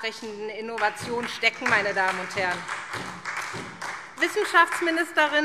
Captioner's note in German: Beifall SPD